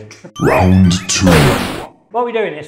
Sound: announcer Voice

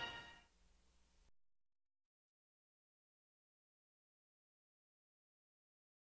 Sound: silence

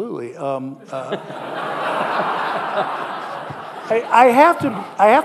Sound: audience laughing

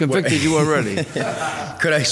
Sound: laughing

